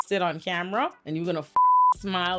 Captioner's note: beep